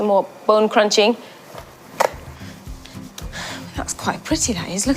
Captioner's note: bones crunch